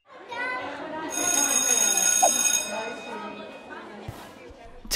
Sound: school bell rings over student chattering

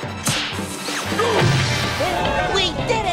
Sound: grunting

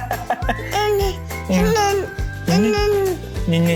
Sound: babbling

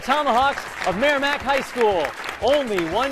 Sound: applause

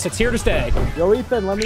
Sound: knocking

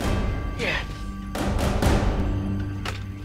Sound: grunting; banging

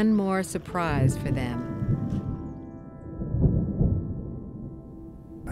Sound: thunder crashing

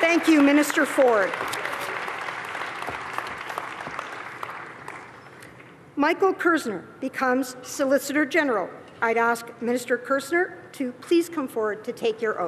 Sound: cheering and Applause

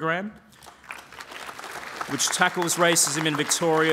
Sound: applause

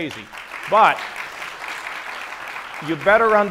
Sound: audience applauds

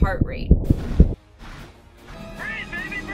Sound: fast beating heart

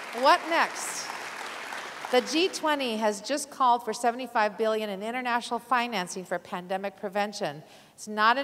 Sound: applause

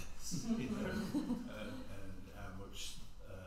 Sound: all laugh

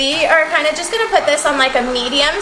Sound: mixer revving

